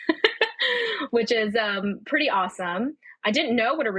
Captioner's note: laughing